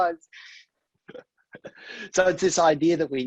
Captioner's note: laughs